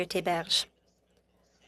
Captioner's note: speaking French